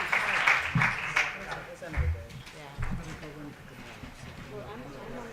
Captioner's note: audience chatter